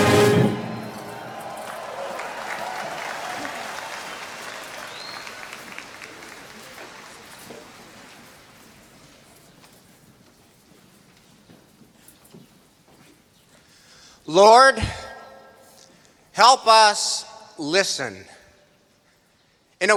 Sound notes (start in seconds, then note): 1.2 applause